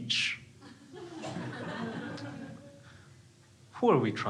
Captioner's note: crowd laughing